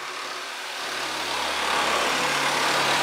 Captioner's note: sound of sawing